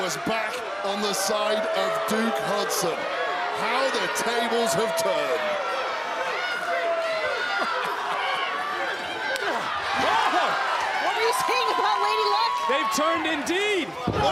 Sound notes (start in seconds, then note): 3.4 crowd boos; 7.1 laughs